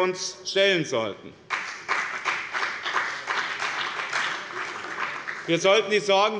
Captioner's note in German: Beifall bei dem BÜNDNIS 90/DIE GRÜNEN und der CDU